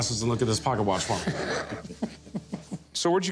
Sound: laughter

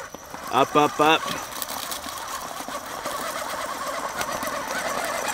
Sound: spinning tire noise

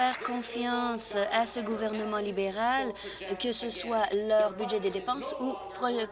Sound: applause

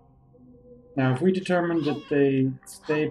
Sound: Hodge meows

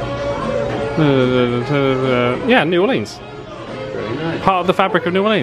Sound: mumble reading

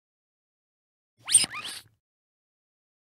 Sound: sound of duck squeeze

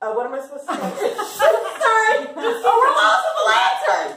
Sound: laughing

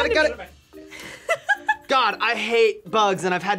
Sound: laughs

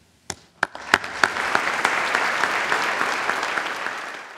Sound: applause

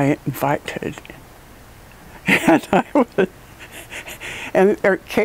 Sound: laugh

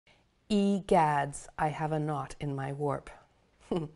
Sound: chuckles

